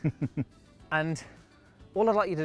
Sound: chuckling

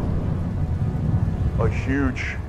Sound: explosion

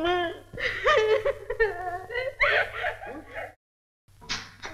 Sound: crying

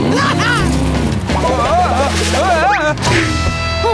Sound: slipping

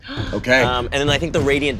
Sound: gasps

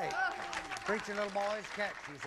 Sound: audience applauding

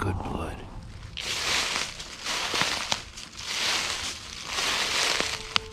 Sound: leaves crunching

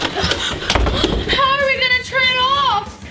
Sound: splashing; door slamming

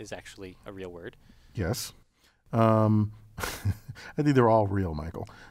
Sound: laugh

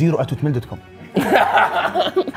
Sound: laughs

